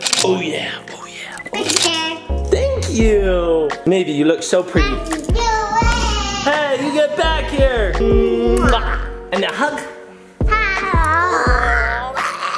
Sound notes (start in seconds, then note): 0.0 camera clicks; 1.6 camera clicks; 8.7 lips smacking; 11.4 dad groans